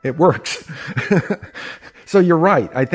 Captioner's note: laughs